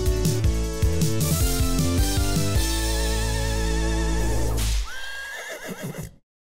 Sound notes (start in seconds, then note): 4.8 horse neighing